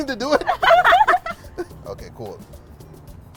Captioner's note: laughter